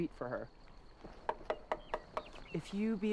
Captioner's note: knocking at door